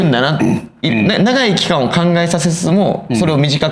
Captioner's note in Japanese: 咳払い